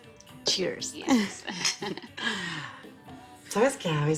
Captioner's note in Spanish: Risas